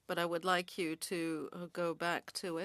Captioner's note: speaking French